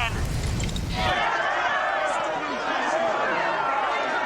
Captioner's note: all shouting